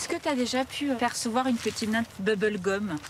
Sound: none

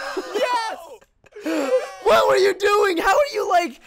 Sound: laughter

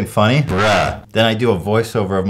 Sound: saying "BRUH"

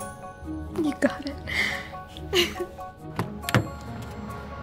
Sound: laughs

